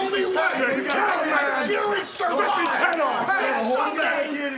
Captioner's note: group chattering